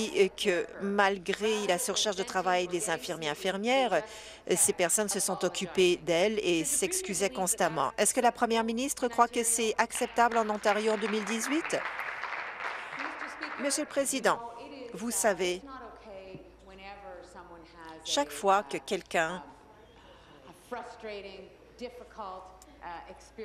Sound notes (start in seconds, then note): 13.5 applause